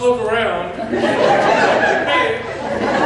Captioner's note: laughter